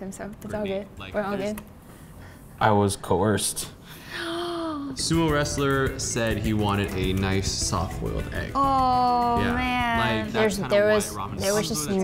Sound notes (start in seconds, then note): 3.5 gasps